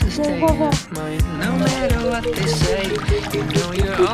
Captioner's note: water splashing